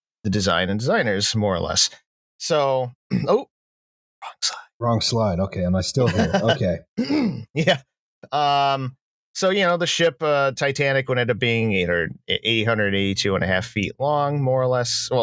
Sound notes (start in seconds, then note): 4.2 whispers; 6.0 laughs